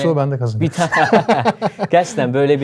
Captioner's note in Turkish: kahkaha